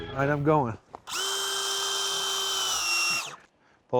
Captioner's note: drilling sound